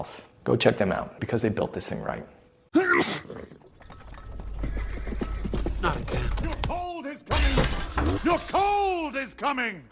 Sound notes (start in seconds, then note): 2.7 sneeze; 5.4 hooves approaching